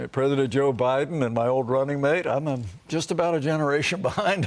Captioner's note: laughter